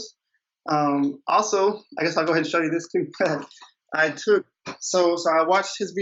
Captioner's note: laughs